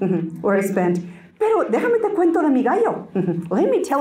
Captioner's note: Spanish